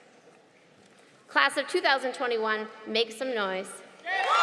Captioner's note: applause